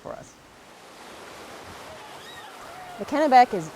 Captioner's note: water flows